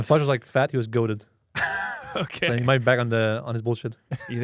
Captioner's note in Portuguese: risos